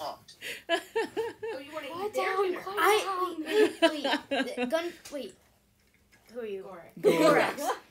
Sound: laughter

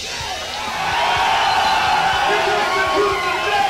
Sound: crowd cheering

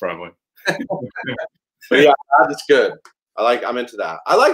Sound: laughs

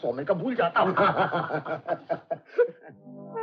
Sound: laughing

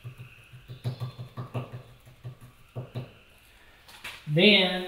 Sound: brush tapping

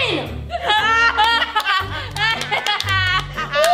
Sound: both laugh

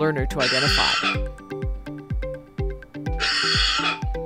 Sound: coughs

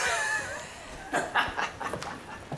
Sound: bro laughter

